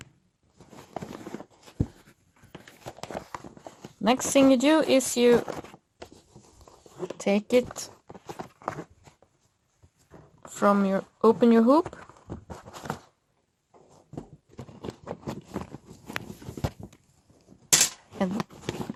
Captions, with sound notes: Next thing you do is.. (rustle, rustle) open your hoop.